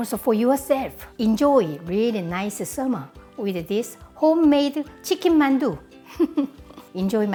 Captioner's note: laughs